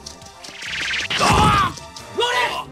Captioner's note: SFX: incoming projectile